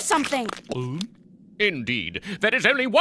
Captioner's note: gulping